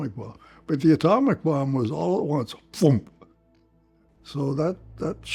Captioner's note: imitates a bomb